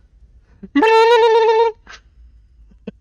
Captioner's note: chuckles; makes weird alien noises